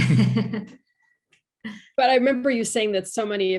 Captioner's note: panel laughs